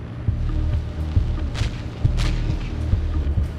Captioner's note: distant gunshots; device whirring